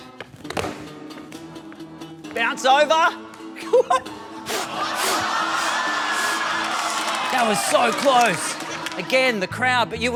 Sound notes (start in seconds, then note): 4.4 blows air repeatedly